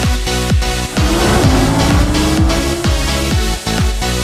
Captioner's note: car engine